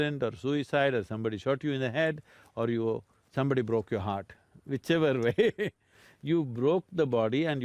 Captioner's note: laughs